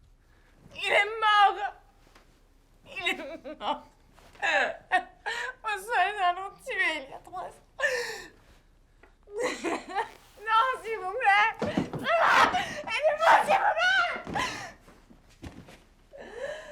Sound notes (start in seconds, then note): 12.1 screaming in French